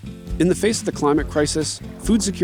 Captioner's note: upbeat music; pat